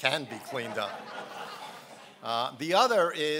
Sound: laughing

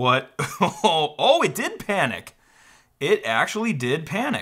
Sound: laughs

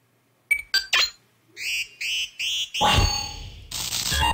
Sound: boop; longer teleporter sound

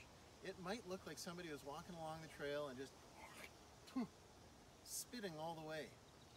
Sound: mimics spitting

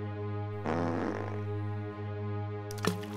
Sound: fart noise

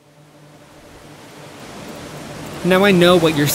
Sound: waves splashing

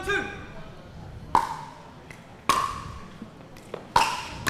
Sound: ball bouncing

